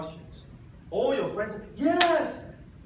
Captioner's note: claps